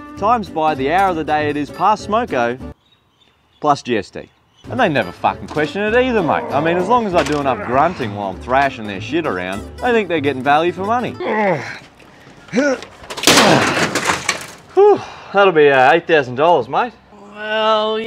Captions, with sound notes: times by the hour of the day it is past smoko plus GST. And they never f*ckin question it either mate I mean, as long as I do enough grunting while I'm thrashin their shit around They think they're gettin value for money. [ grunting ] That'll be $8,000 mate Well...